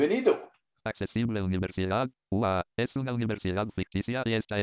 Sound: speaking spanish

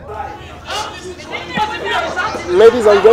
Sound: distinct chatter

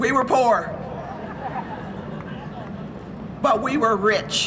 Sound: audience laughs

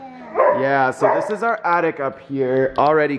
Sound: dog barking

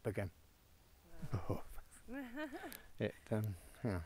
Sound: shudders; Lara laughs

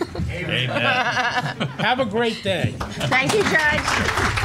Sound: laughing

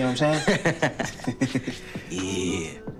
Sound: Kevin laughing

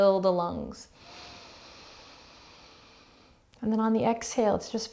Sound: heavy breathing

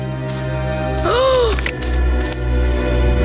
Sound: gasping

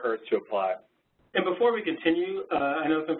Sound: voiceover

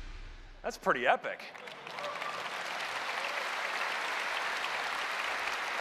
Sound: applause

